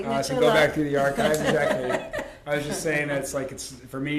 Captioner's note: laughter